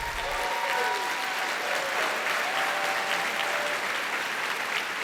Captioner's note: audience applauding